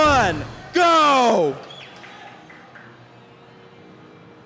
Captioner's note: crowd applauds, whistles